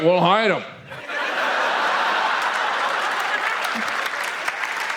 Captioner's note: audience laughs